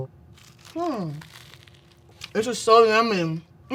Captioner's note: sandwich crunching